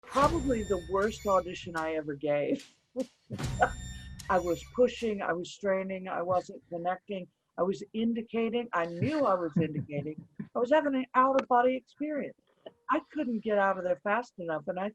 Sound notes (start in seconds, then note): 3.7 laughs; 8.9 laughing